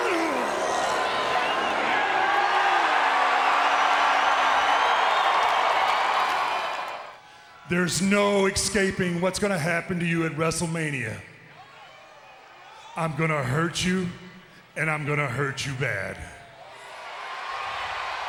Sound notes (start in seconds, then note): 0.0 Undertaker snarls; 3.2 crowd cheers